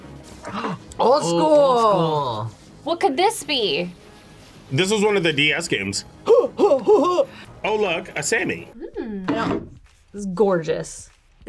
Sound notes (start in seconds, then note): 0.4 gasps; 6.2 grunting